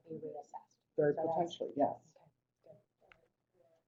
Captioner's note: voiceover